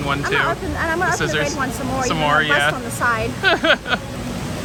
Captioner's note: laughs